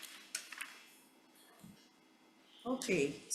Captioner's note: papers shuffling